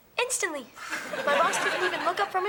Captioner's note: audience laughing